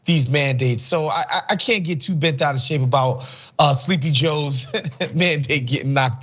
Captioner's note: laugh